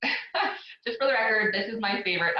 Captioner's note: laughs